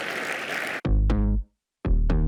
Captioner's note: applause